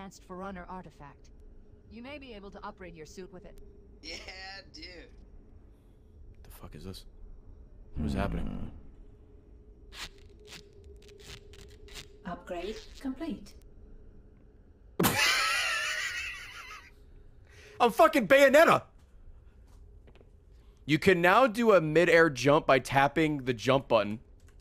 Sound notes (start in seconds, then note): 11.0 duct tape noises; 12.2 laughs